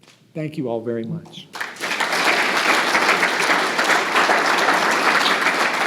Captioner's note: audience applauds